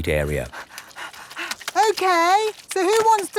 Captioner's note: panting